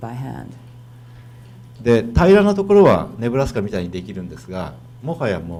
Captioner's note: speaking foreign language